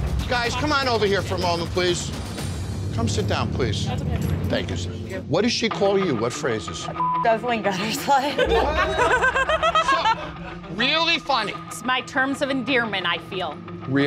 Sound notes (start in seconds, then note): 6.9 beep; 7.8 laughs